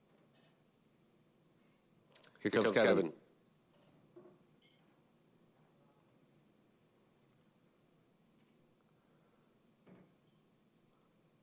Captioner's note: silence